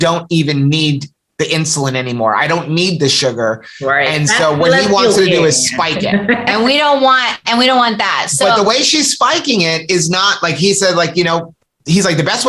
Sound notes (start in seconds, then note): 5.6 laughter